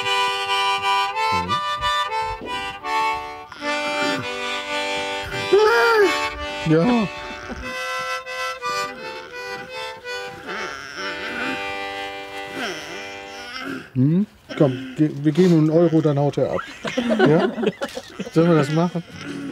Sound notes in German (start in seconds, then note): 12.5 stöhnt; 17.1 lachen